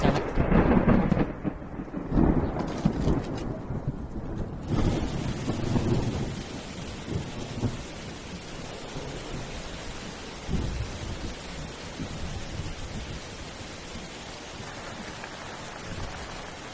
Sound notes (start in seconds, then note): 0.1 thunder crashes; 4.6 pouring rain; 14.5 pouring rain